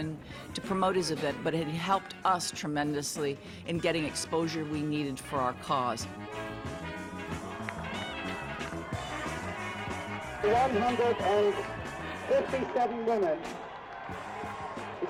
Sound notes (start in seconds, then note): 6.3 crowd cheering; 9.2 man over P.A